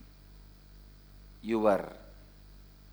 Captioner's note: hindi